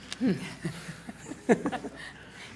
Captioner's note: laughing